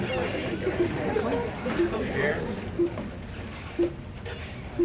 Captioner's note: beeping